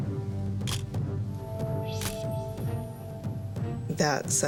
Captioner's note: camera shutter click